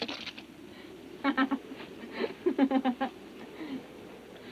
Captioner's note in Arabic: آبي تضحك